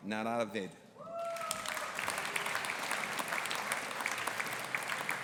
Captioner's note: audience applauding